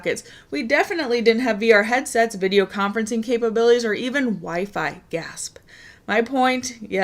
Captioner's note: gasp